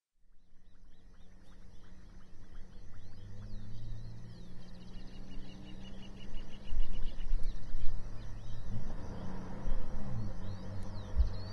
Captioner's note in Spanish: Sonido ambiente campo